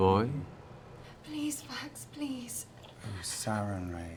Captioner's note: whispering